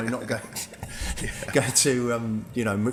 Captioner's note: laughing